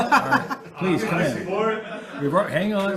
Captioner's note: duck mumbling; laughing continues; duck mumbling